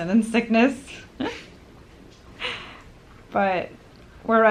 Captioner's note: laughter